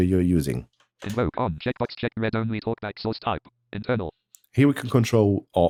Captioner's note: automated voice